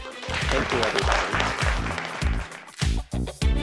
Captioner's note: audience applauding